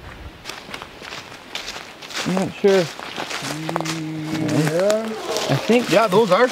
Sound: leaves rustling

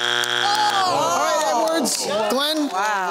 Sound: groaning

